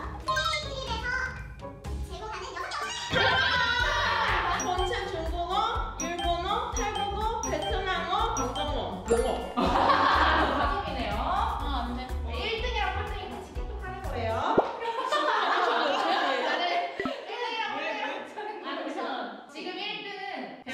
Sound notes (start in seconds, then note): 6.0 Taiwanese